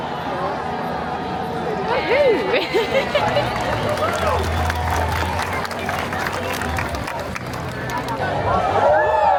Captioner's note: cheering